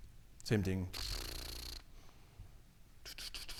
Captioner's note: rolls lips